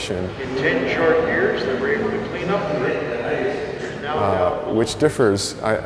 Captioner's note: dinner boat sounds and captain's narration